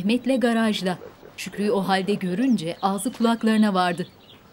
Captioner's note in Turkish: Kuş sesi